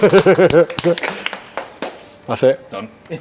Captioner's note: all applauding